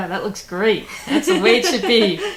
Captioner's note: laughing